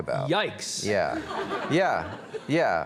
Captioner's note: audience laughs